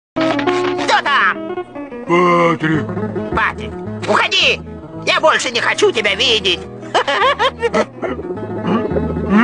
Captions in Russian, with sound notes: Кто там? Патрик Патрик. Уходи, я больше не хочу тебя видеть! (смеётся) (начинает плакать)